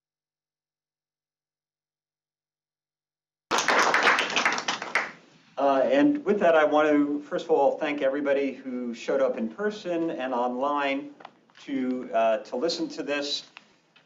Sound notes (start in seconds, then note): 3.5 crowd clapping